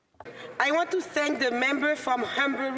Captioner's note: speaking French